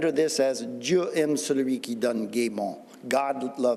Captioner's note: speaking Old French